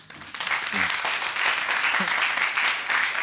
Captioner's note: audience applauding